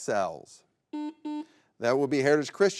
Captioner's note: button blips